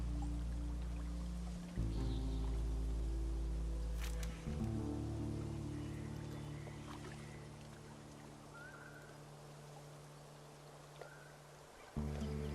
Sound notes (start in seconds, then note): 0.0 natural ambience